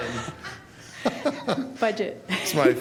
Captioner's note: laughter